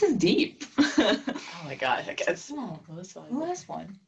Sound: laugh

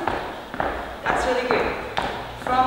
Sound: feet tapping

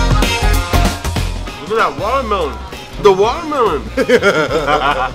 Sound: laughter

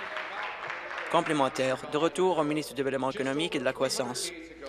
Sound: applause

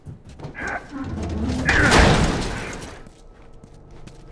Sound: Joel grunts in exertion; loud bang; intense music; soft footsteps

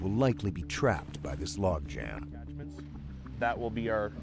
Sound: voiceover

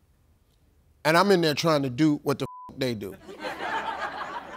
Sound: beep

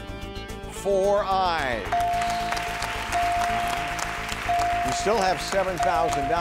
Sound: chimes dinging

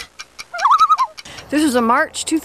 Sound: loon call

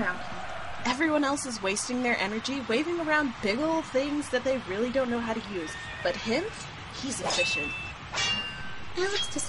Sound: cheers and Clashing Weapons Noises

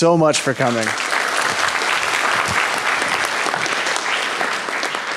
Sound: audience applauding

